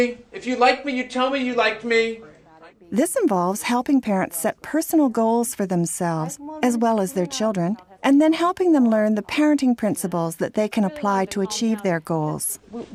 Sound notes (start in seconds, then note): 3.0 voiceover